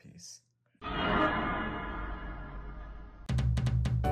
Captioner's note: spooky sound; drum beat